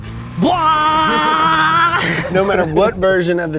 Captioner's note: yelling